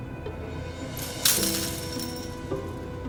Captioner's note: clank